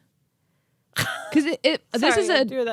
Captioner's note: laughing